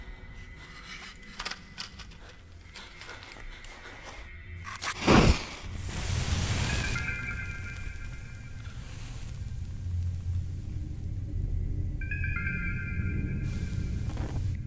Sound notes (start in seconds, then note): 0.6 matches clattering; 4.7 match striking; 6.8 suspenseful music